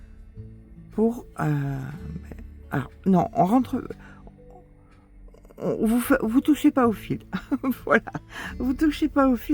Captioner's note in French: rires